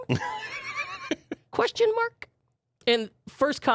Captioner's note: laughing